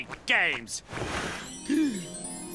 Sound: gasping

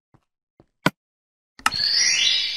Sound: click

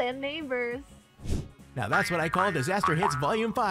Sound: air swish

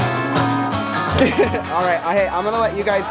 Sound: laughs

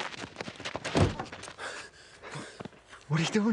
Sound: heavy breathing

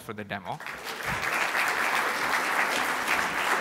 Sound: applause

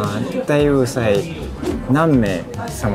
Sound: speaking in Japanese

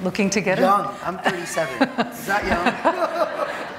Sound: laughing

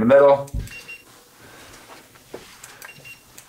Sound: infrared thermometer beeping

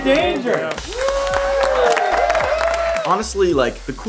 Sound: cheers

